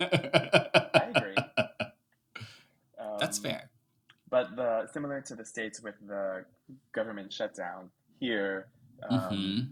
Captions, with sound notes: (laughing) - I agree. - That's fair. - But similar to the states with the government shutdown here,